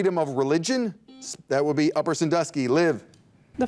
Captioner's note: buzzer dings